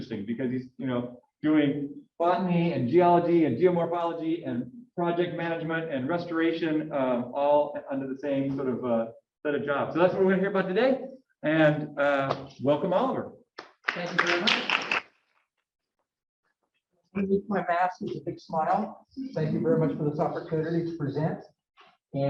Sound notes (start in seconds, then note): 13.6 audience clapping